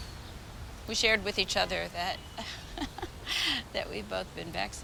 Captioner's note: chuckles